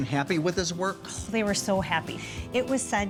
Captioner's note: exhaling